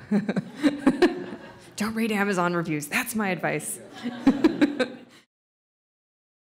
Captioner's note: audience laughs; laughs